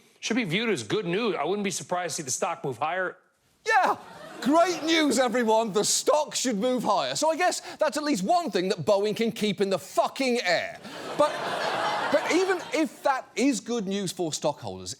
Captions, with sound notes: Should be viewed as good news. I wouldn't be surprised to see the stock move higher. Yeah. Great news, everyone. The stock should move higher. So I guess that's at least one thing that Boeing can keep in the fucking air. -But... -(AUDIENCE LAUGHS) But even if that is good news for stockholders,